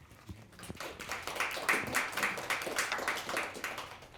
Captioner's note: applause